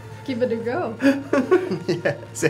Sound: laughing

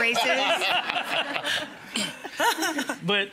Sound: all laughing

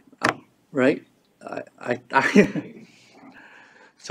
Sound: laughs

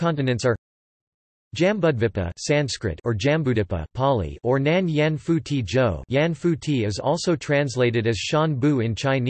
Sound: Pāli

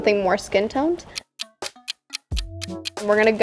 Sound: clock ticking

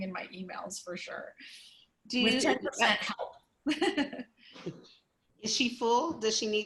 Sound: laughter

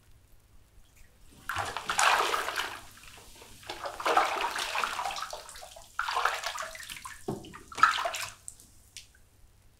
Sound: sounds of Hamlet slipping under the water in the bath

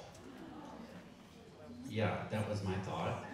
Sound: audience gasping

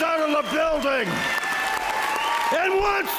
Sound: applause

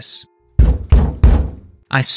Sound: knocking

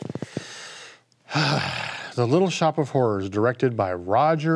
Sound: sighs

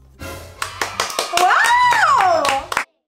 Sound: dramatic music; cheers and clapping

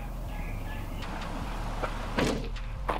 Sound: trunk thuds

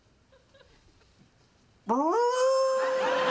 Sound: howling

